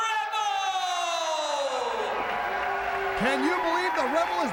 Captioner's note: crowd cheering